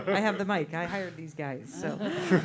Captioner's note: both laughing